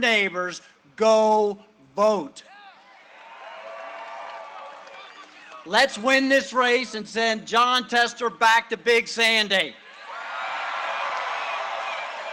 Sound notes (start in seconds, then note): 2.6 cheering and applause